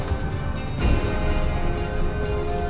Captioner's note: gunshots